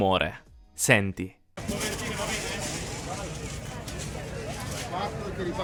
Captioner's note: indistinct chatter